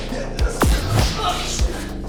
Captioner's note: pulse blast